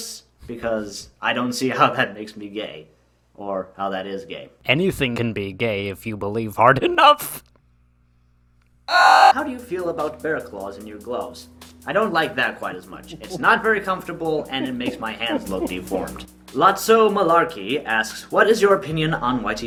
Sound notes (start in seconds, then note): 8.8 laughs with robot delay audio effect; 15.0 Joker's laughing gets louder in the background